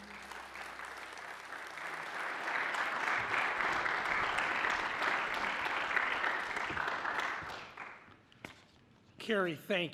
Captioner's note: applause